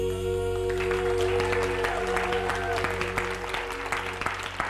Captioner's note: audience applauding